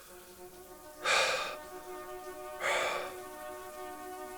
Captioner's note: shower running